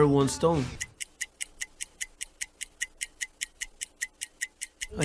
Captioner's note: ticking